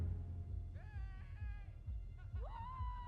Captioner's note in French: cris et rires à l'extérieur